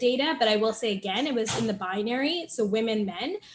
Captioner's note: door slams